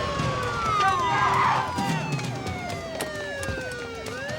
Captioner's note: siren wailing; cop shouting